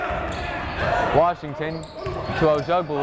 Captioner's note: yelling